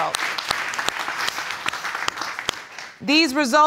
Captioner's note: audience applauds